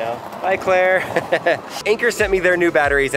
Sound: laughs

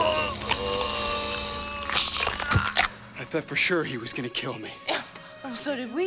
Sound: <i> straining and gasping</i>

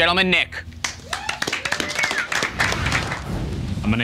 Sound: applause

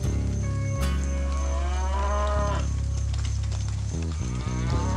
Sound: mooing

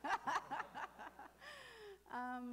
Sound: laughing

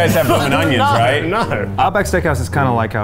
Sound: laughing

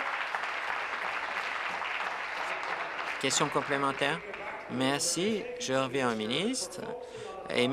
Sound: applause

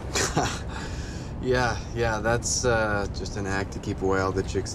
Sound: laughs

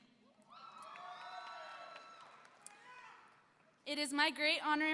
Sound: audience cheering

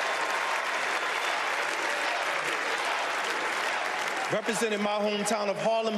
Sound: cheers and applause

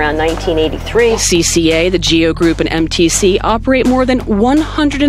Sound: voiceover

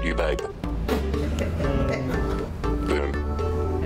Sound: laughs

